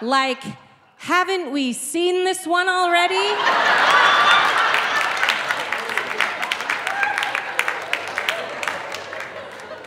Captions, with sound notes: like, "Haven't we seen this one already?" (audience laughing) (audience clapping)